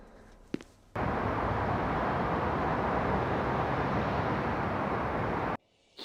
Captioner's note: city noises